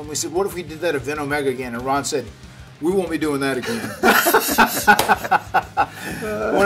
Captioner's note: laugh